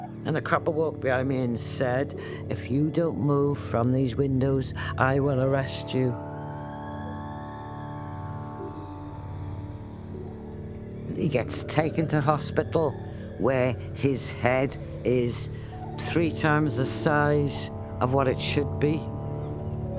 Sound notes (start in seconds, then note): 6.4 siren wails